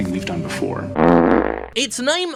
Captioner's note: dog farting